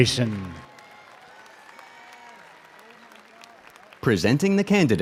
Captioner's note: audience cheers and applauds